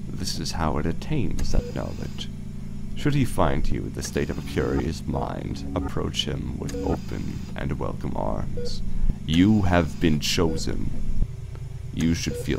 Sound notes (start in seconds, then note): 0.1 mechanical ambiance; 9.2 mechanical ambiance